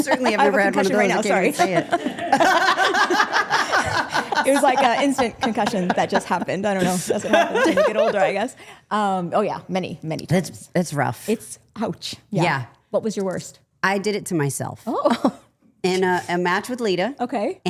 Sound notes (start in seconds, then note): 2.1 all laughing